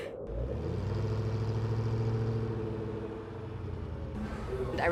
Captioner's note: engine revving